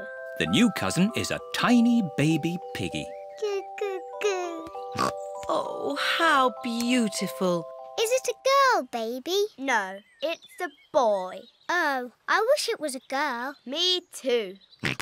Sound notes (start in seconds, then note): 4.9 snorts